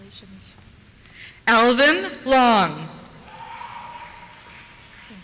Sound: cheers

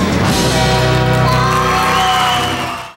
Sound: audience cheers

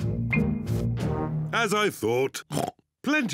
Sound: oinks

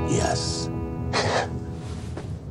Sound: sigh

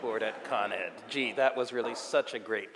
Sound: audience laughing

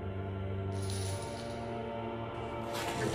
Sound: chains rattling

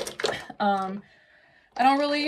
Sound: makeup brushes clanking

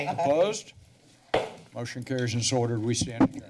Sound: gavel tap

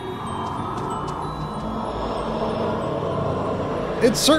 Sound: movie audio

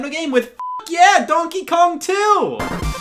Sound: beep

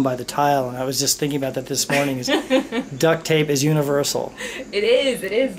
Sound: laughter

